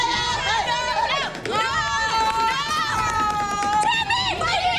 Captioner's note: angry chatter